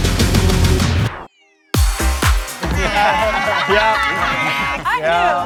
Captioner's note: everyone laughing